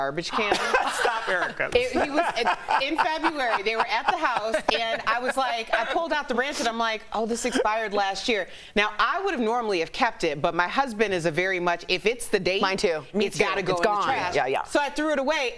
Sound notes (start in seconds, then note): 2.7 laughter